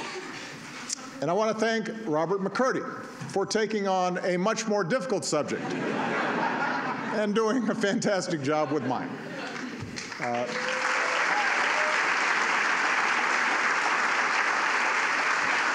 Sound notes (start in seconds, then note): 5.5 laughter; 9.9 applause